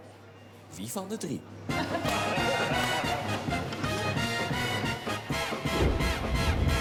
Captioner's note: laughter, tune of old TV quiz Who of the three